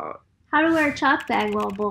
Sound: keyboard clicking

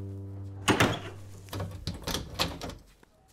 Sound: door opens

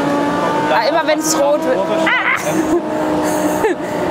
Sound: bird noises

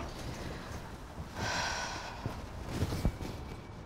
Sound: sighing

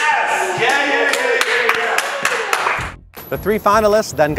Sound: clapping

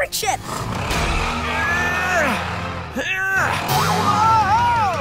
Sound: grunting

